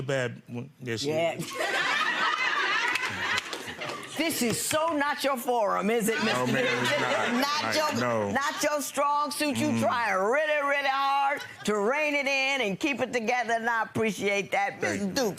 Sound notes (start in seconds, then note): 1.7 laughing